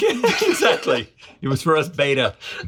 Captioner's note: both laugh